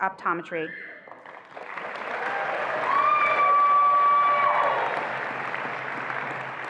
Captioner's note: attendees applauding and cheering